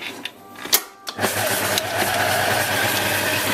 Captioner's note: mixer whirring